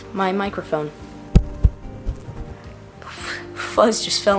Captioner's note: taps on microphone